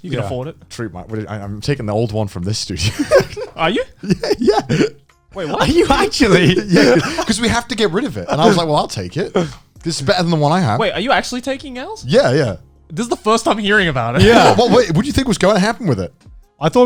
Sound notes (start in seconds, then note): 2.8 laughs; 6.4 laughs